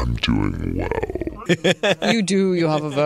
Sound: deep voice

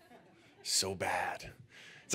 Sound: audience laughing

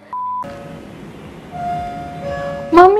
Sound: door bell is ringing

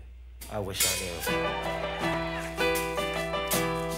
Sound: audience cheering

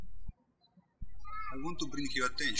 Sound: birds chirping

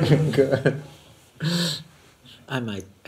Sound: laughs

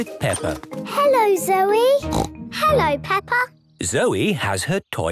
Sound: snort

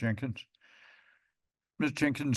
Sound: inhales

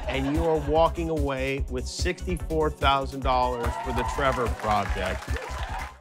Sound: cheers and applause

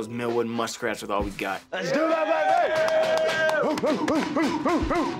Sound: football team cheers and hoots

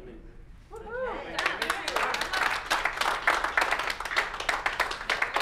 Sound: applause

